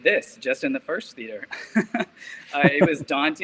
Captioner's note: chuckles